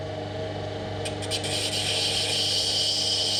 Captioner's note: grinding whirring